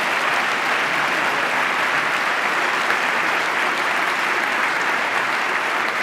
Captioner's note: applause